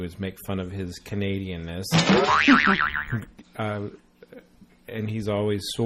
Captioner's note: boing noise